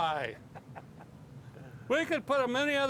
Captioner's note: laughing